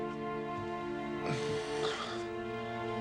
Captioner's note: panting